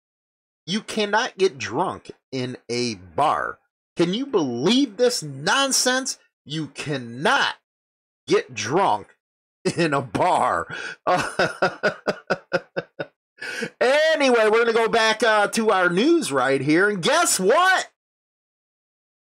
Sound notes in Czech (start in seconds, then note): 13.1 Smích